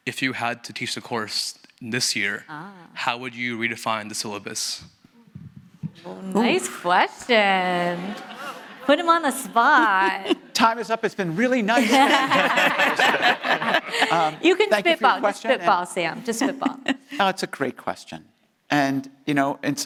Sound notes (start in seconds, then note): 7.6 audience laughing; 11.7 panelists laughing